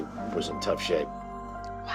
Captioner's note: whispers